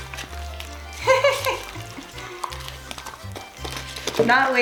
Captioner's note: laughs